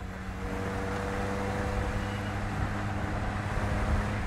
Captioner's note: driving and wind noises